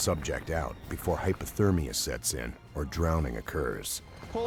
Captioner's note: voiceover